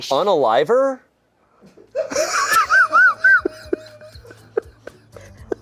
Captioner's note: everyone laughs